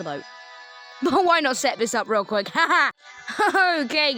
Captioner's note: forced laugh